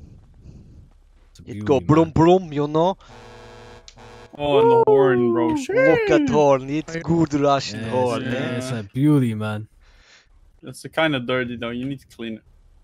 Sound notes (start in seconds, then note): 3.0 honks horn